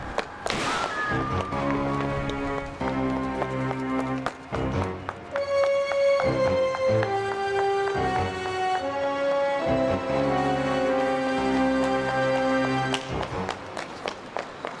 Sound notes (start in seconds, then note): 0.4 gun firing